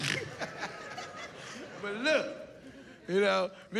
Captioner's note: laughs